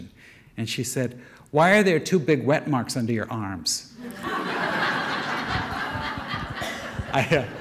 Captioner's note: audience laughter